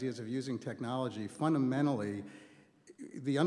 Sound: none

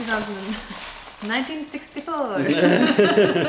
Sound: laughter

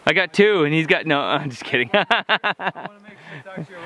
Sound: laughs

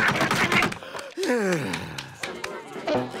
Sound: sighing

